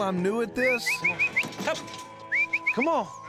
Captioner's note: whistling